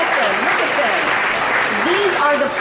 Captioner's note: audience applauding; audience applauds